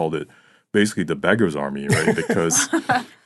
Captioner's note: laughing